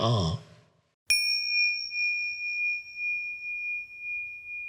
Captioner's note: gentle bell chiming